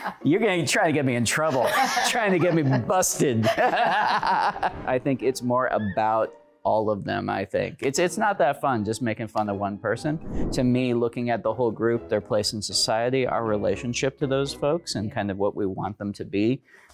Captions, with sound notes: - You're going to try to get me in trouble. Trying to get me busted! [laughing] I think it's more about all of them, I think. It's-it's not that fun just making fun of one person. To me, looking at the whole group, their place in society, our relationship to those folks and kind of what we want them to be.